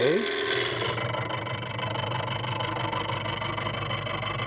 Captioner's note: scraping metal